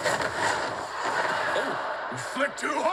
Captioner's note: crowd gasps